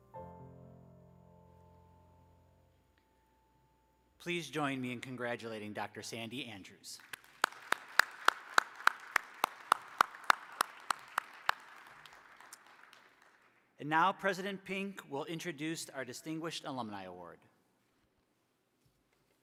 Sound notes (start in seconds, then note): 6.9 applause